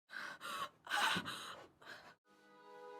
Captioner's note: gasping; somber music